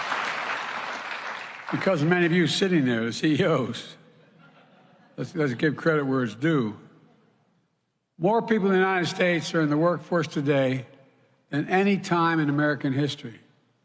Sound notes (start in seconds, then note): 0.0 applause